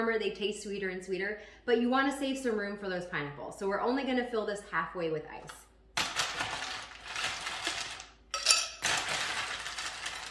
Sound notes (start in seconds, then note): 6.7 ice crackling